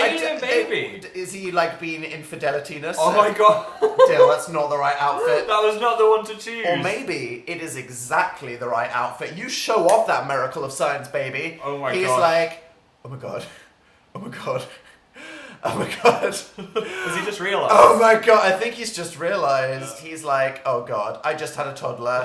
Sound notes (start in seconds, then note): 3.0 giggles; 10.6 snaps fingers